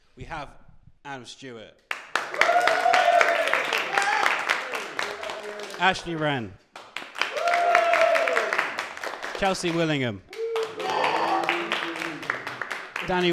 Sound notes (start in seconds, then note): 2.0 cheering and applause